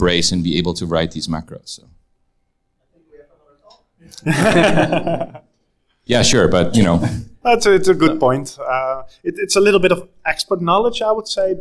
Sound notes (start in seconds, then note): 4.1 group laughs